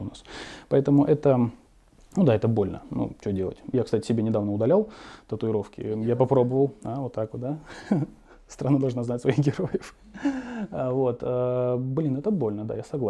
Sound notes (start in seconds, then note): 9.7 laugh